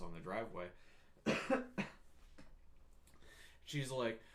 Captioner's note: coughs